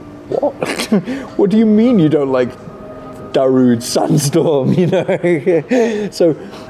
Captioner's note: laughs; laughs